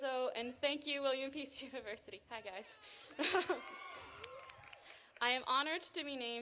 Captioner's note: chuckles